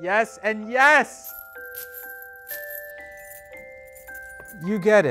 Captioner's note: bells jangle